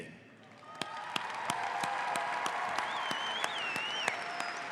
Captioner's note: audience applauds